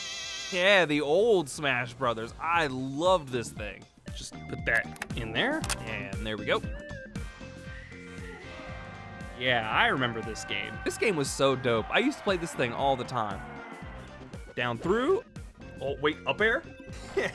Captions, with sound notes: Yeah, the old Smash Brothers! I love this thing. *Plastic Clunking* Just put that...in there... *Click* There we go! Yeah, I remember this game. This game was so dope- I used to play this thing all the time! Down through- oh wait, up-air?...